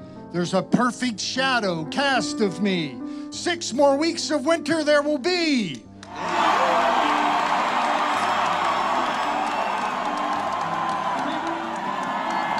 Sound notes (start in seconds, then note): 6.1 applauds; 6.1 audience cheers